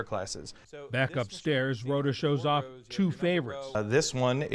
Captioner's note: voice-over